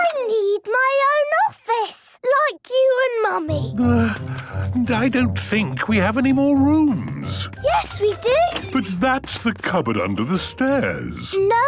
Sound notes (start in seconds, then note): 3.7 sighing